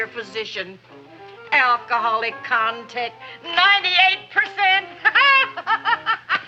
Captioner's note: laughs